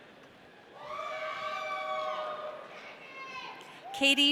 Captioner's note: audience cheering